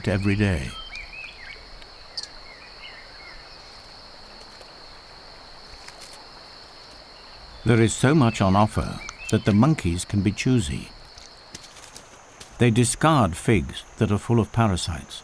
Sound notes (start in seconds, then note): 0.0 birds chirping